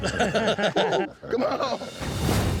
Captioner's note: laughter